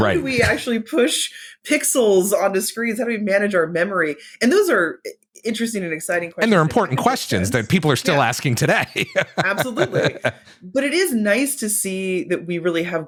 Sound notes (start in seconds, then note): 8.6 laughter